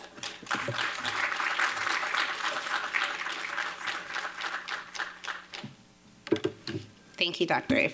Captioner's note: audience applauding